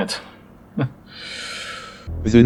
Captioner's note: quiet chuckle